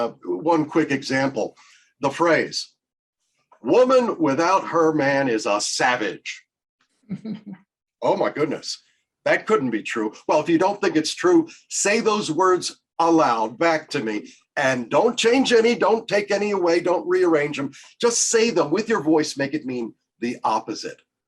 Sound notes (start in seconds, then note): 7.1 laughter